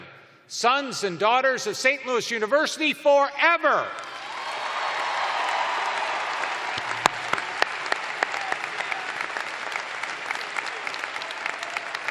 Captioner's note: cheers and applause